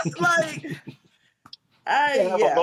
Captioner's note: laughter